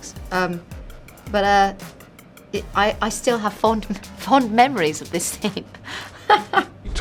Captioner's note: laughs